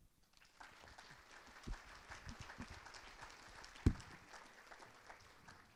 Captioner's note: audience applause